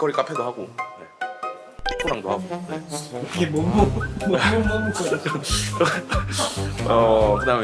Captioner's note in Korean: 웃음